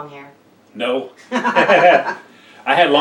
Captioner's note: everyone laughs